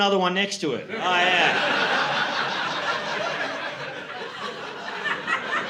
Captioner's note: laughter